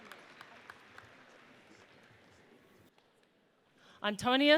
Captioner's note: audience applauds